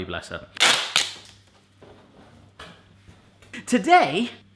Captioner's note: tape ripping